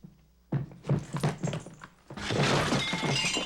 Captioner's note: crash